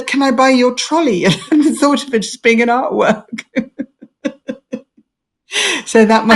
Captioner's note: laughs